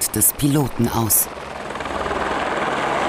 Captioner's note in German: Hubschrauberlärm